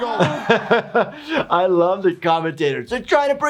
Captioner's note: chuckling softly